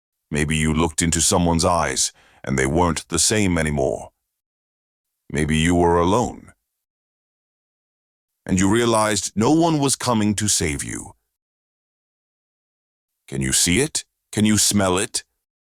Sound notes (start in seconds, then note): none